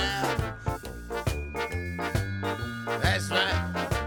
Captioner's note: bell rings